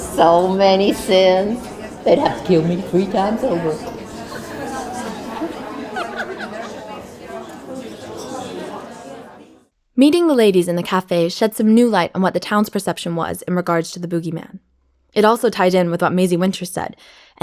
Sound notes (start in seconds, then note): 4.0 both laugh; 4.5 people chattering